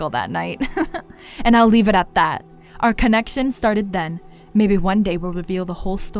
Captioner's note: laughs